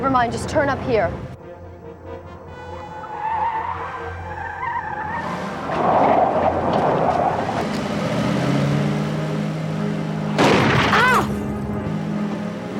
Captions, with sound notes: - It's that son of a bitch from. - It's who? - Never mind, just turn up here. (tires squealing) (suspenseful music)